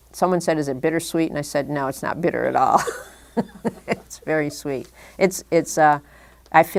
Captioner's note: chuckle